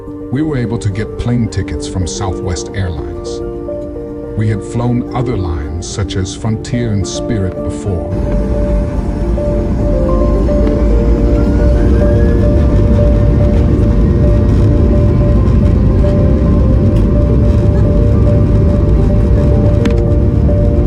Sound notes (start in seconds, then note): 8.4 airplane engine whirring; 12.7 uptempo gentle music continues